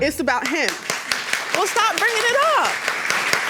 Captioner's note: audience applauds